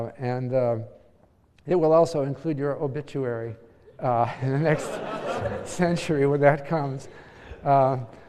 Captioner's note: laugh